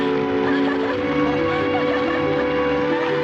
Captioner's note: laughter